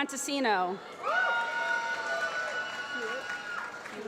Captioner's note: applause